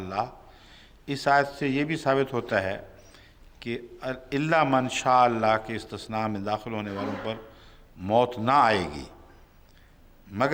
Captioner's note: Arabic